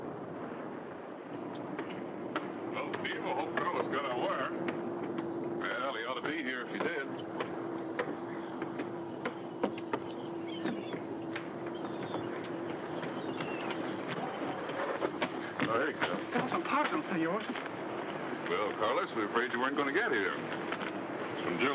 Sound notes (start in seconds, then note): 7.7 footsteps shuffle; 14.7 footsteps thud